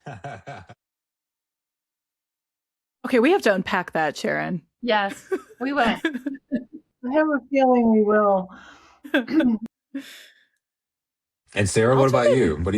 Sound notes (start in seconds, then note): 0.0 laughing; 9.0 laughing